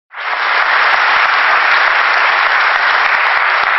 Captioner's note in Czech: potlesk